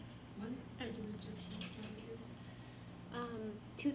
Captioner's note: faintly speaking